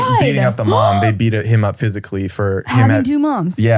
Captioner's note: gasps